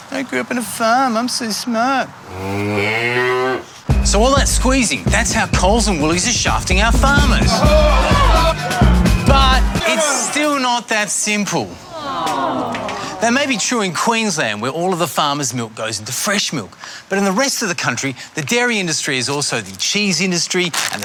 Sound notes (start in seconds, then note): 2.2 mooing; 7.5 shouting